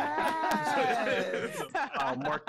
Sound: group laughing

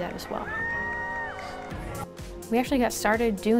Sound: yells and applause

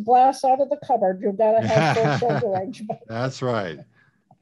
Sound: laughs

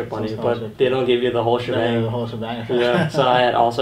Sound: laughs

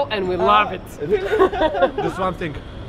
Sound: laughter

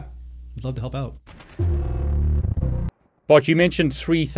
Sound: electric sound

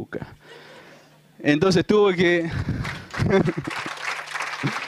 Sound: laughter; applause

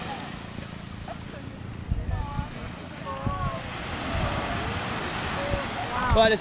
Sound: sound of waves

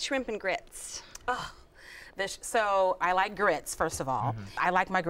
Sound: sighs

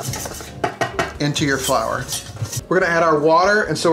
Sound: clanging

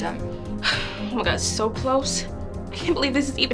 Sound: sighs

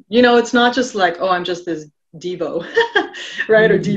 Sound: laughing

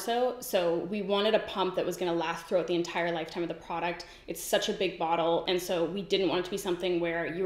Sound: none

